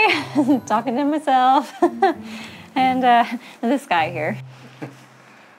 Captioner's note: laughs